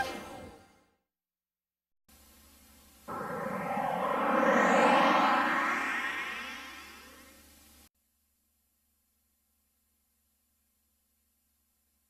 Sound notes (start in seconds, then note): 2.8 winds whistling amid VHS static; 8.7 silence